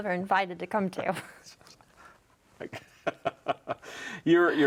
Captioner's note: laughing